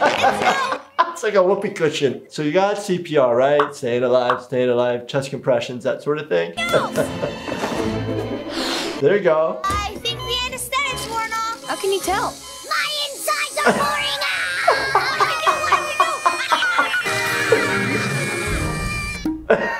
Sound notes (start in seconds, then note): 11.5 phone ringing; 13.5 screaming; 13.6 laughing